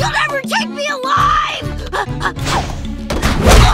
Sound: gasping

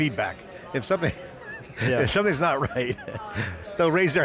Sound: laughs

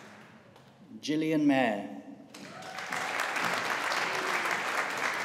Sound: audience applauding

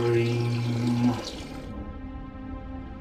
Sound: water running

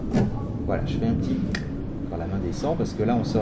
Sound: clic

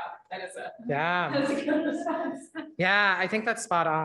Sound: laughing

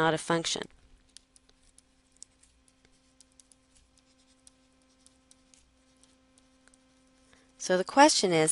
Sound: pause in Lecture

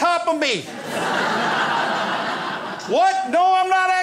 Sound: crowd laughs

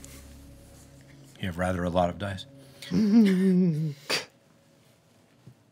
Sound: chuckling

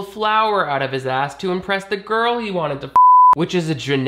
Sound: beep

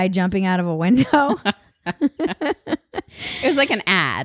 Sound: both laugh

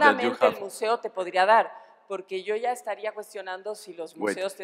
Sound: speaking spanish

